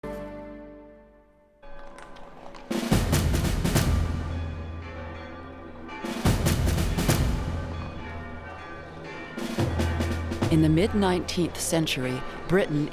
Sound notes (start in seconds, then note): 3.7 bells ringing